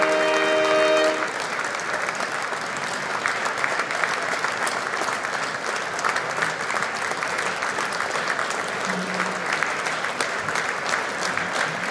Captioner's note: applause